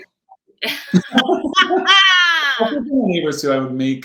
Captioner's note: laughing